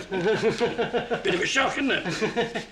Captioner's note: laughs